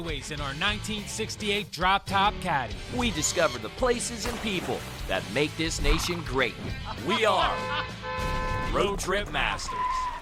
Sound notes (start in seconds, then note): 7.3 horn honking